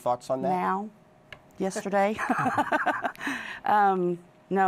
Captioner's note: laughs